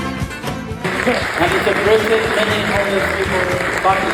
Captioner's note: attendees clapping